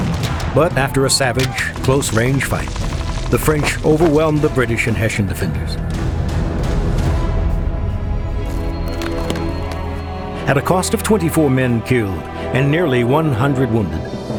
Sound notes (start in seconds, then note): 6.6 battle music; 8.4 map opening